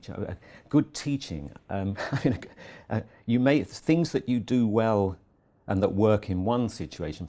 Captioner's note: laugh